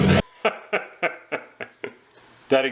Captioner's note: laughing ensues